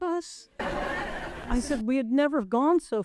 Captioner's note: people laughing